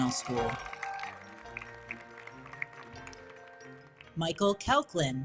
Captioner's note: audience cheers; audience applauding